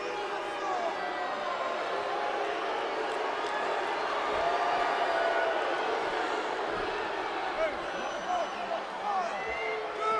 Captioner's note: crowd cheering